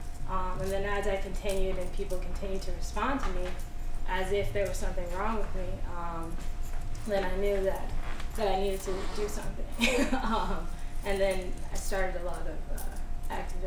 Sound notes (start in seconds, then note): 9.8 laughs